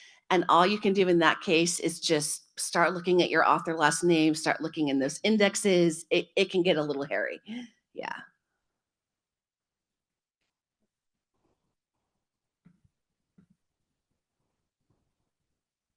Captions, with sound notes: And all you can do in that case is just start looking at your author last name. Start looking in those indexes-- it can get a little hairy. Yeah. [Silence as mic is passed to another attendee]